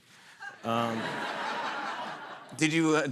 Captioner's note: laughter